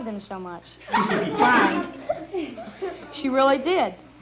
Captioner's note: laughing